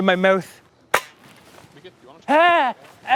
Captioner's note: pop